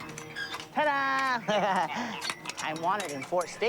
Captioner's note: laughing